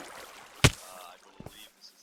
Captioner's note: smack